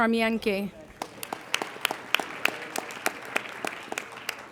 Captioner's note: applauding